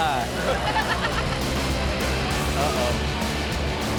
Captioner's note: heavy punk music; Chanel laughs